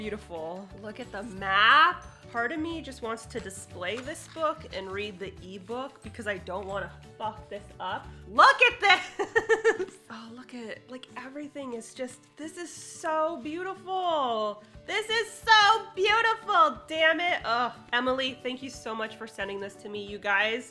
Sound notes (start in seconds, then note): 9.0 laughs